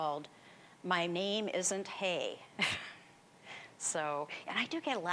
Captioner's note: chuckling